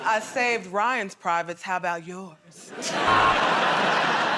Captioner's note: sultry voice; laughter and applause; buzzer